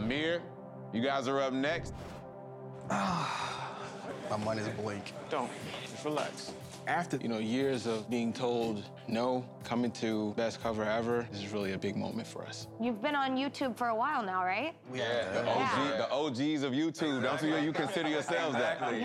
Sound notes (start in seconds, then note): 2.8 sighs; 15.0 all agreeing